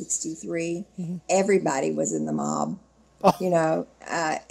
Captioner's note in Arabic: ضحك المحاور